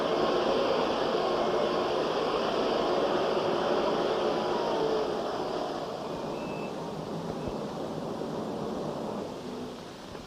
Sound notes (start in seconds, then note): 4.3 Hoover stops